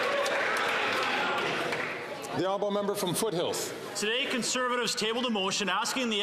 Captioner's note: some Applause